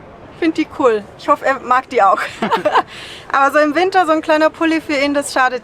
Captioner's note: laughs